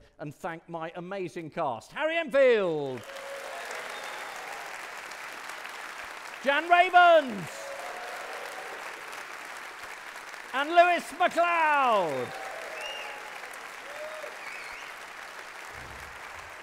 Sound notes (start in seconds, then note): 3.1 audience clapping and cheering